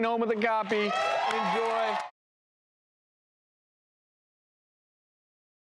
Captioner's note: audience cheers